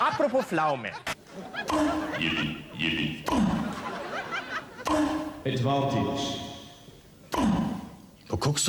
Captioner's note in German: Gelächter